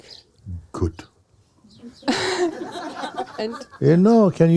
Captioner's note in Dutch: gelach